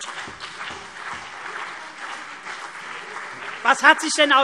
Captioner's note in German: Beifall CDU und BÜNDNIS 90/DIE GRÜNEN